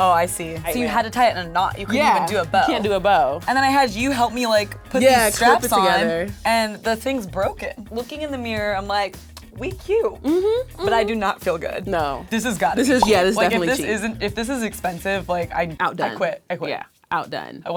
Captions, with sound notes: - Oh, I see. So you had to tie it in a knot, you couldn't even do a bow. - Yeah, you can't do a bow. - And then I had you help me, like, put these straps on. - Yeah, it's all put together. - And the thing's broken. Looking in the mirror, I'm like, we cute. - Mmhm, mmm. - But I do not feel good. - No. - This has got to be cheap. (pops) Like, if this is expensive, like, I quit, I quit. - Outdone, yeah, outdone.